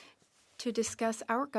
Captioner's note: speaking French